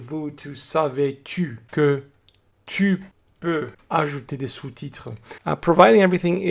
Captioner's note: french